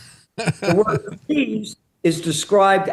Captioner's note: laughing